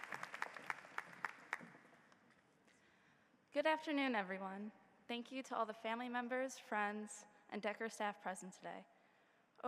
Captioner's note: applause